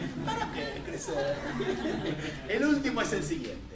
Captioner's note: laughter